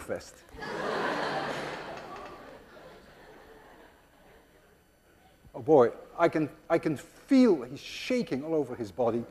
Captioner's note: class laughs